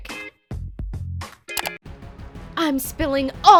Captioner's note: clicking